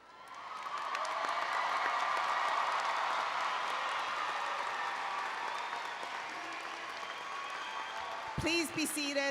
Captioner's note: applause and Cheering